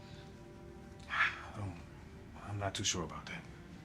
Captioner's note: sighs